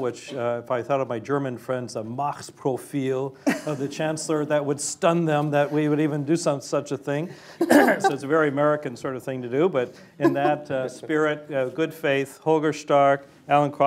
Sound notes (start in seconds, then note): 3.4 laughter; 7.1 laughter